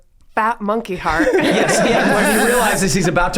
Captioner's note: gang laughing